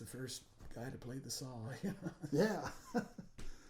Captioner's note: laughing